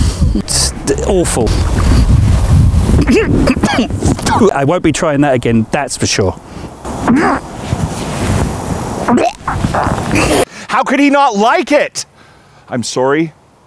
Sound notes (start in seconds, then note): 3.0 gags; 3.0 coughs; 7.0 gags; 9.0 gags